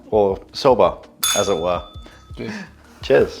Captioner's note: bell rings